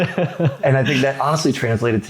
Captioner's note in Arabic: يضحك